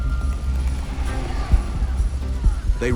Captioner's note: shouting